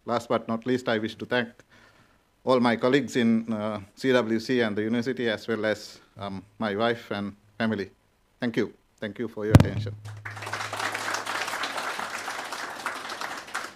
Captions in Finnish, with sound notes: and last but not least I wish to thank - all my colleagues in CWC and the university - as well as my wife and family. Thank you for your attention. (Aplodeja.)